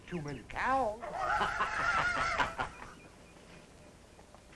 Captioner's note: laughter